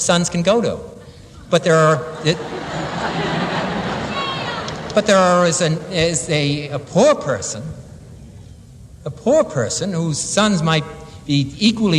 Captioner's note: laughter